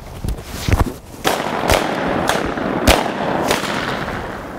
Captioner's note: gunshots firing